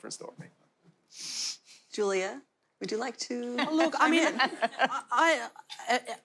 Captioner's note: panelist laughter